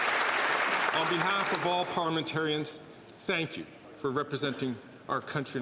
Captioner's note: applause